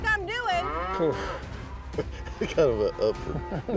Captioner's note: chuckling